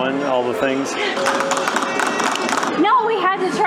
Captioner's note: clapping sounds